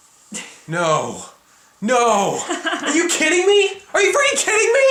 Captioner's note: continues laughing